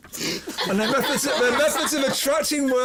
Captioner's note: laughter